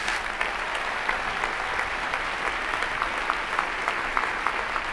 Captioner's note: applause